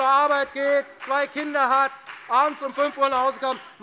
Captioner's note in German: Beifall bei der FDP - Zuruf von der LINKEN